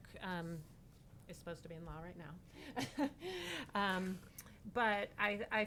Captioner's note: laughing